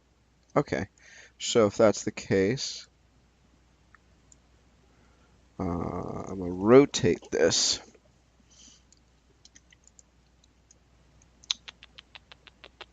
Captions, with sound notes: Okay, so if that's the case, I'ma rotate this. (mouse clicking)